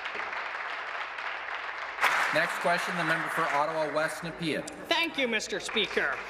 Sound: applause

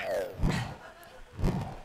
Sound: sighs

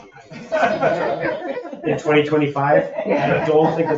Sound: people laugh

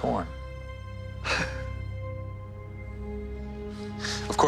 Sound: laughs

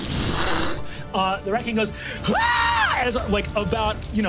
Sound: screams

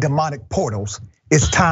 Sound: laugh

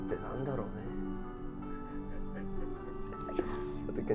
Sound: laughing

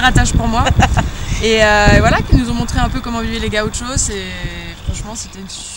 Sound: laughs

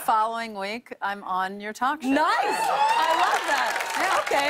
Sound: cheers and applause

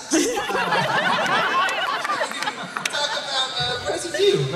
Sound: laughter

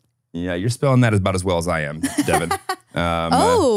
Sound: laughs

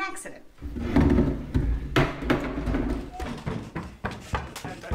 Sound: loud clattering

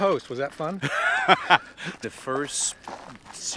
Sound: laughs

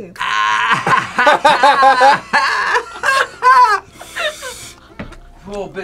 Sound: both laugh

